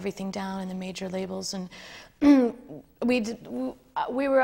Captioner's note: none